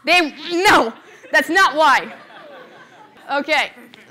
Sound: laughter

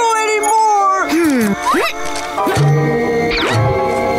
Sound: grunting

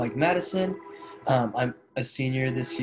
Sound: train horn sounds

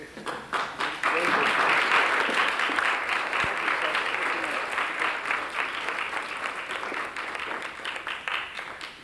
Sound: applause

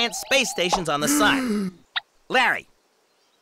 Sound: gasp

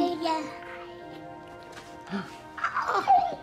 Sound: baby stops crying

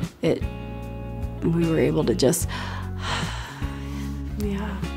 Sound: exhale

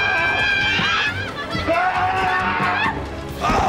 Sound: screaming

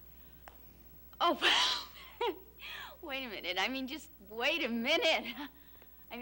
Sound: laughs

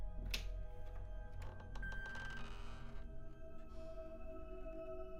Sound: door creaking

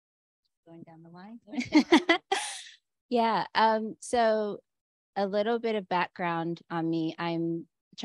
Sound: Chineze; laughter

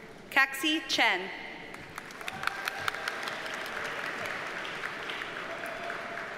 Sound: audience cheers and applauds

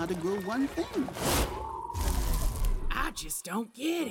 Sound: wind howling

